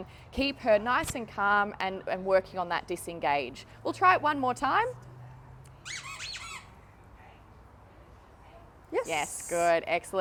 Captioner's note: toy squeaks